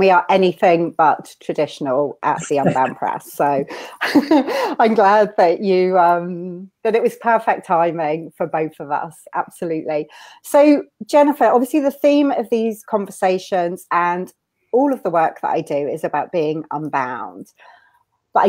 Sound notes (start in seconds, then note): 4.2 laughs